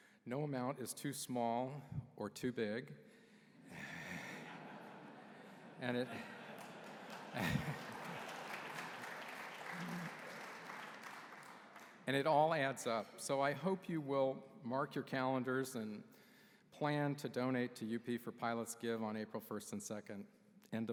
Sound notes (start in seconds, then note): 3.8 laughter; 6.2 applause